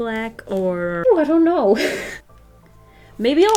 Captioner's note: laughs